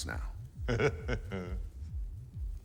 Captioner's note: chuckles